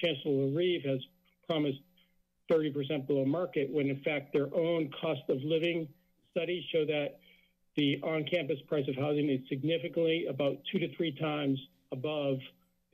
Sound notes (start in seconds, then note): none